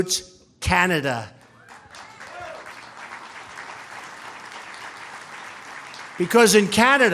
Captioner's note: applause